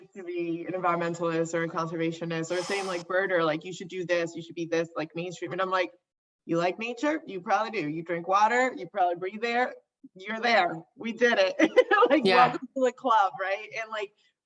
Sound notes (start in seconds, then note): 11.7 laughs